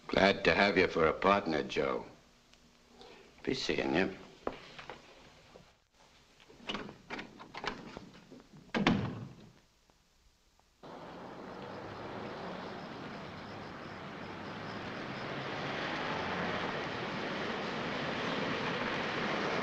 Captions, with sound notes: - Glad to have you for a partner, Joe. Be seeing you. (door thuds shut) (car rumbling)